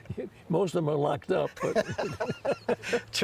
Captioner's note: laughs